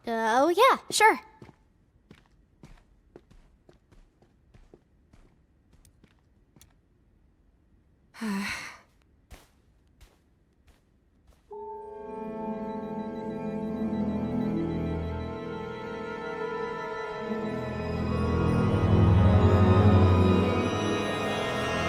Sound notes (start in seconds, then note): 8.2 sighs; 11.6 sinister music plays